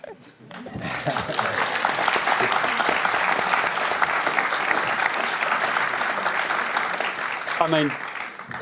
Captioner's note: applause